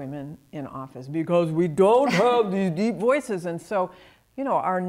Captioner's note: deepens voice